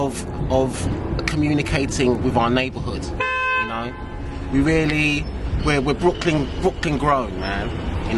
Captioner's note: car horn